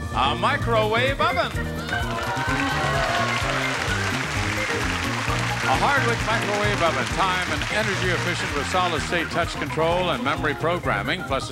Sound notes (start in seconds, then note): 2.1 clapping and cheers